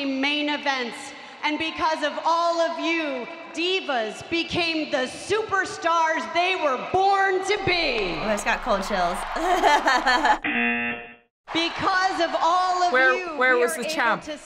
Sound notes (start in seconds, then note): 9.2 buzzer; 9.2 laughing